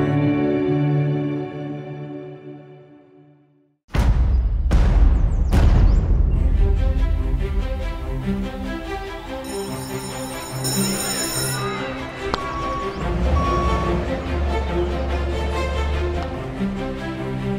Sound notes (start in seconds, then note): 9.4 bell ringing; 12.4 beeping